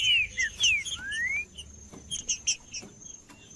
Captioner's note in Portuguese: trinca ferro cantando